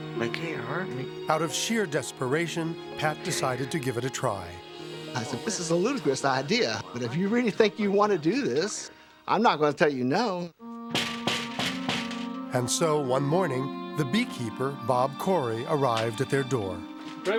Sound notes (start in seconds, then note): 10.9 door knocking